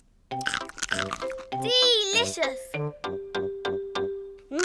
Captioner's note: crunches